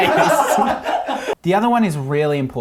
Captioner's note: all laughing